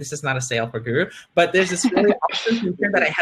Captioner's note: laughing